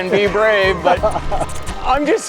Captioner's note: laughs